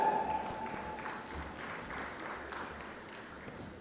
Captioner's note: applause